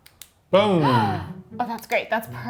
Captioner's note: gasps